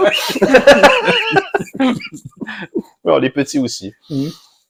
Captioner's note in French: Rire